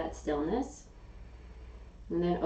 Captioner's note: inhaling